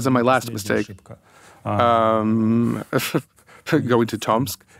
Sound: chuckles

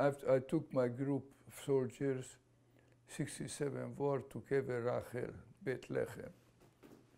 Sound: non-english

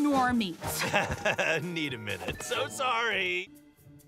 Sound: chuckles

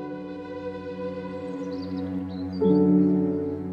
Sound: Vogelzwitschern

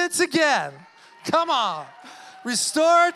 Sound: congregation cheering

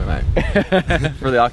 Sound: laughing

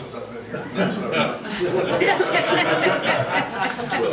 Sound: laughing

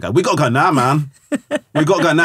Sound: laughing

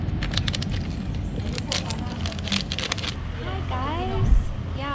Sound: packet cracking

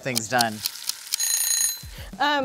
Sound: timer Ticking; timer Ringing

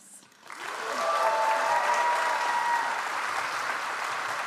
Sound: audience applauds

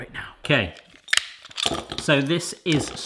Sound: snapping

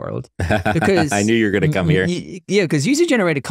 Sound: chuckling

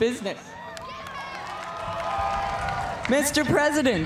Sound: cheers and applause

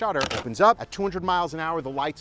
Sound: shutter snaps

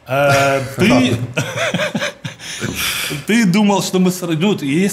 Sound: both laugh

